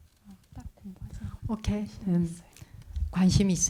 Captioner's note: translator speaking in Korean